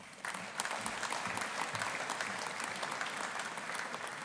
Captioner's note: audience applauding